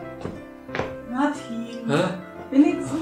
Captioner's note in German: genervt